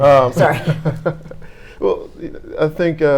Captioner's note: laughing